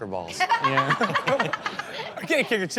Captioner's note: audience laughs